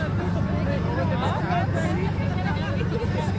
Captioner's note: riders chatting; riders laughing